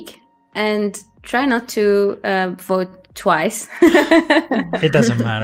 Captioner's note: laughs